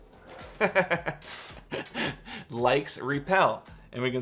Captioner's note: laughs